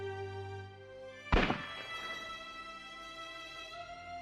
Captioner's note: distant Gunshot